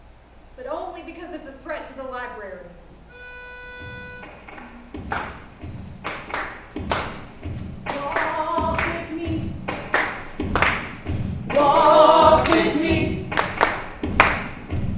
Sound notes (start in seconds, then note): 3.1 soft music; 6.0 actors clapping